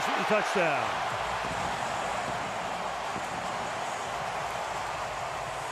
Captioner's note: cheering